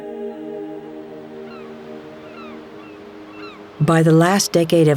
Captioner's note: gulls calling